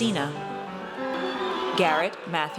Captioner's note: audience cheers